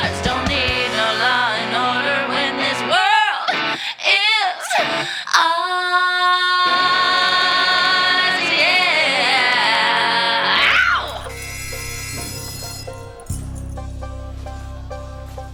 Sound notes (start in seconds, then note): 10.9 prison alarm sounds